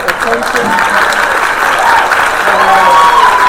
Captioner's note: applause